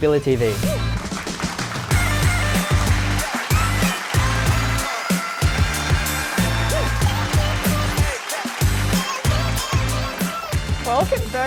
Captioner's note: applause